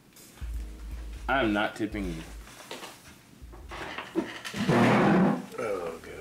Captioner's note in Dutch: stoel raspt vloer